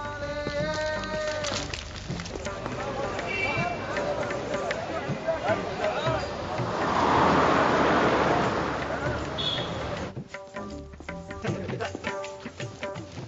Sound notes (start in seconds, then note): 0.1 singing in Hindi; 3.6 beeping; 7.4 murmuring and engines rumbling